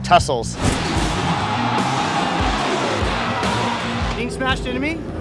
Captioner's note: crashing, crowd yelling